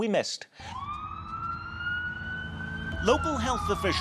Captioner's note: ambulance siren wailing